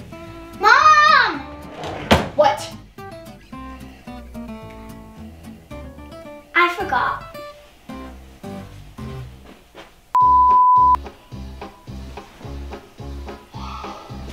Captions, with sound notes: - What? - I forgot. (beep)